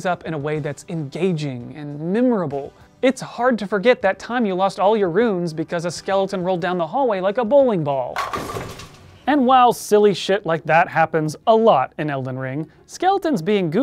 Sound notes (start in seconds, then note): 8.1 hollow clatter of bowling pins